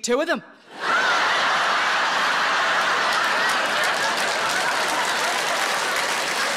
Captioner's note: audience laughing and applauding